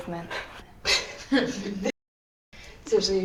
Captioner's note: laughter